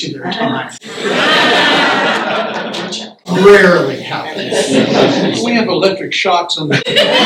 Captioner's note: laughter; laughter